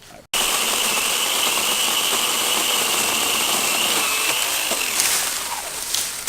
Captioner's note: electric saw cutting